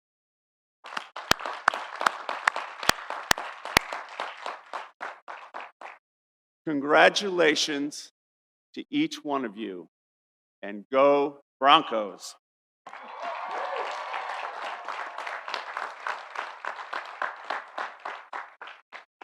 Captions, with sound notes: (audience applauding) Congratulations to each one of you, and go Broncos! (audience cheering) (audience applauding)